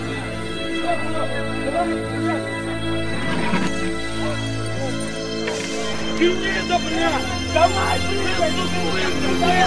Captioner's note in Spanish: gritos,voces indistintas,golpes